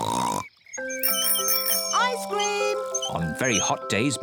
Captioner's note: oinks excitedly; rings bell